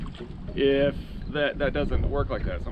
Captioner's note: fish splashing